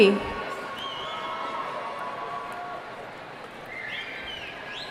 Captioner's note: whistling